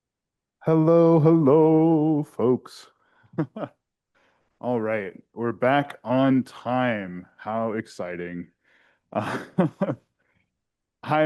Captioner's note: chuckles